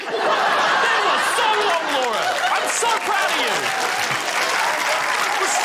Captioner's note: laughter; applause